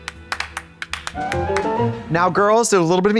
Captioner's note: bright chime